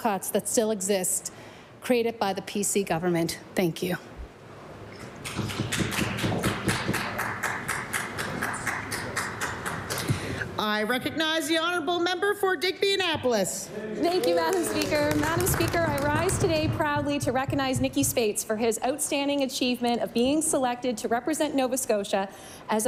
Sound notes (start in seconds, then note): 14.1 some Applause